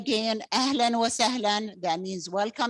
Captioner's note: speaking in Arabic